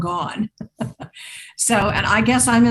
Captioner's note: laughs